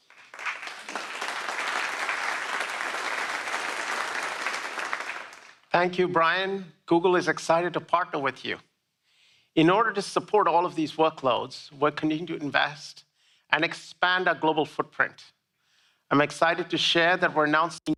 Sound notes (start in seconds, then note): 5.6 applause